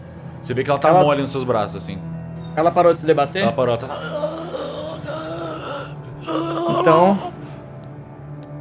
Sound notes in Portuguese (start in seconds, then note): 3.4 Grunhidos; 6.7 Gemidos